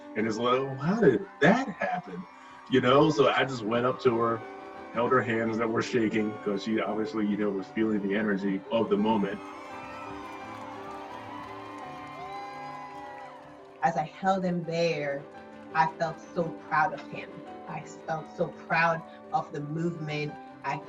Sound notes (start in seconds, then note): 10.4 protestors cheering